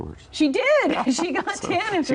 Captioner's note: both laughing